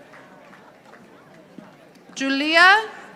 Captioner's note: audience applauding